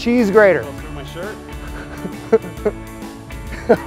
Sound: chuckles

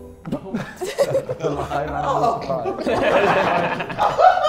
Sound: laughs; JJ laughs

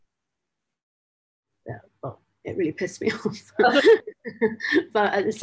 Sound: laugh

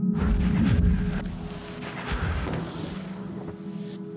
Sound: heavy breathing

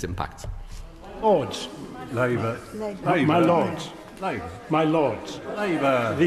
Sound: chatter

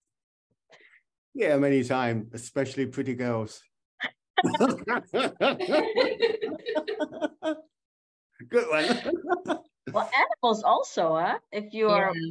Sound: laughter

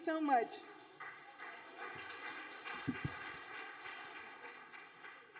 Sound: audience applauding

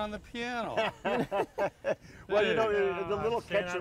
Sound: laughter

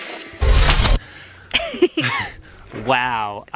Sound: laughs

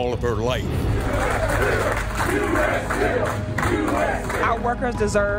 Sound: chanting

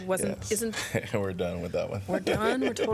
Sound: laughter

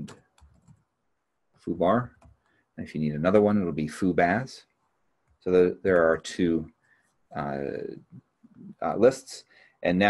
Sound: keyboard clicking

